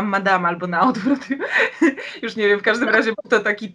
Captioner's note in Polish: śmiech